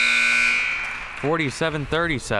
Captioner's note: whistle chirping; crowd cheering